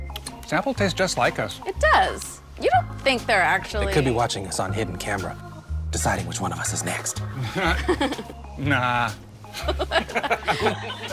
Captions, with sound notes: Snapple taste just like us. Oh, it does. You don't think there are actually... They could be watching us on hidden camera, deciding which one of us is next. [ laughter ] Nah. [ laugher continues ]